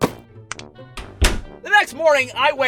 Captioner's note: light switch click, door thud